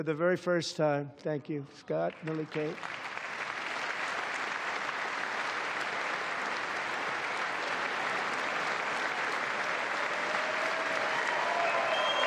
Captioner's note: applause